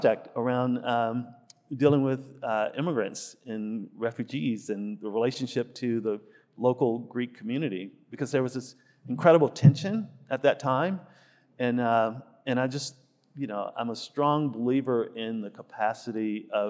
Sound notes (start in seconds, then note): none